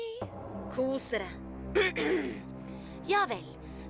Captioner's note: clears throat